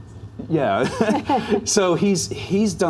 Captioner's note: laugh